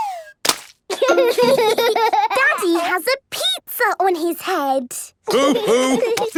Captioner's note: splat